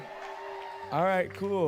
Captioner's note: audience cheering and applauding